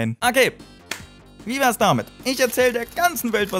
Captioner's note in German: Klatsch